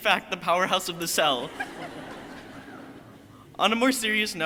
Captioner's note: crowd laughing